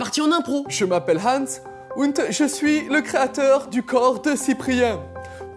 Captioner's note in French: accent allemand